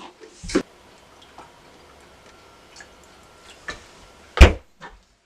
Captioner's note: refrigerator opening; creamer pouring